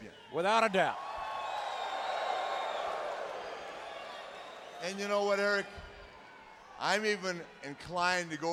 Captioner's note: applause